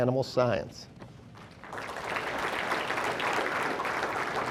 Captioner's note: audience applauding